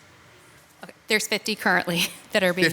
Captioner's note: laughs